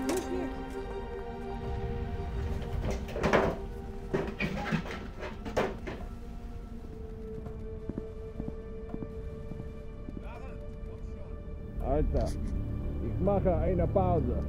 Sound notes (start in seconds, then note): 0.1 box lid clattering; 4.9 footsteps thudding